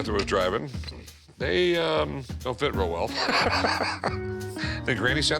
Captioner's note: laughs